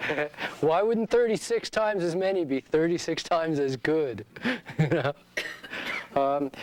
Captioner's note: laughing